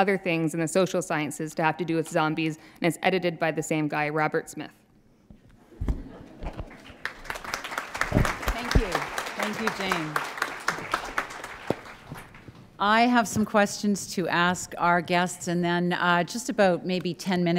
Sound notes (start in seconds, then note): 6.6 applause